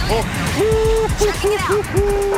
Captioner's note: laughing